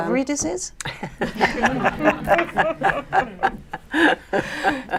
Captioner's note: laughter